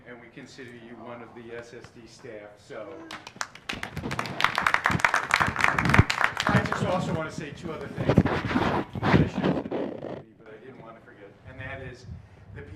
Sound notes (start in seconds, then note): 3.0 applause